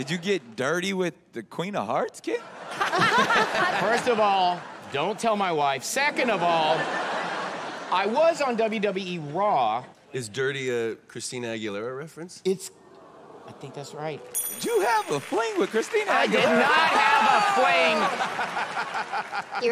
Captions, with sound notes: Did you get dirty with the Queen of Hearts, Kit? First of all, don't tell my wife. Second of all, I was on WWE Raw. Is dirty a Christina Aguilera reference? It's-- I think that's right. Did you have a fling with Christina Aguilera? I did not have a fling. [laughter]